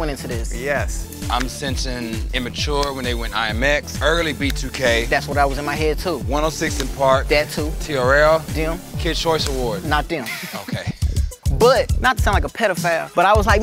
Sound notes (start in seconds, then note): 10.2 laugh